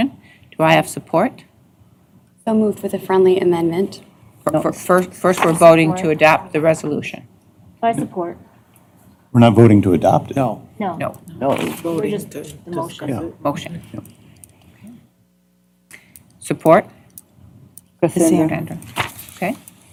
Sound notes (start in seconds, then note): 16.5 indistinct chatter